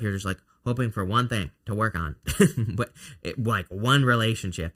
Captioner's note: laughs